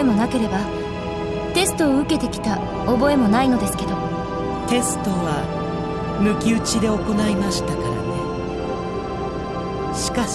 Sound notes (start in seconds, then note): none